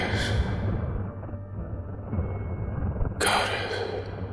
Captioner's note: creature chittering